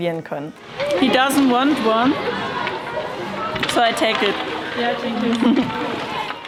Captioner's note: laughs